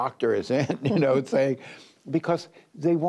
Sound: laughter

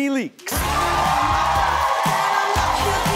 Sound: audience cheering

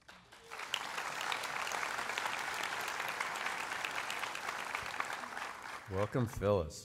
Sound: applause

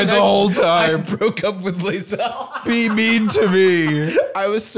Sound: laughs; laughing

